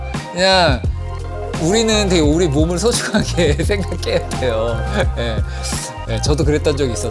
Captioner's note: laugh